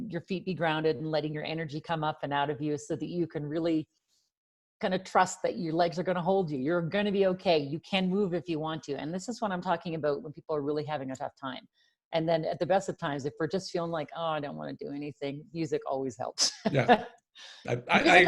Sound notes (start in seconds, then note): 16.7 laughs